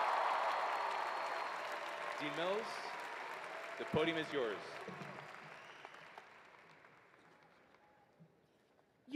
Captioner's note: cheers and applause